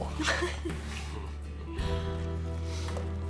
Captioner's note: laughs